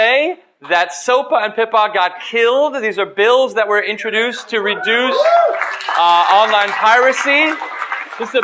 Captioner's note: crowd cheering